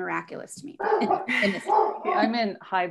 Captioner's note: dog barking